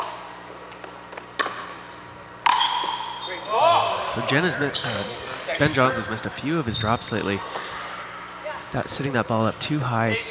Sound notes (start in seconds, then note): 0.1 ball bouncing; 2.9 shouting